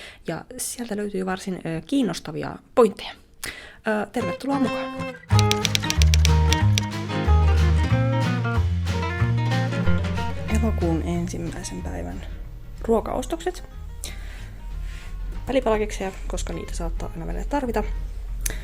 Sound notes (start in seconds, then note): 5.3 typewriter tapping and cheerful music